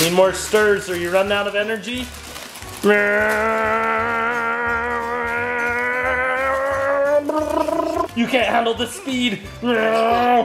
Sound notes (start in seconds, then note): 3.0 growls